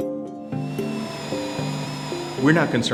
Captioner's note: drilling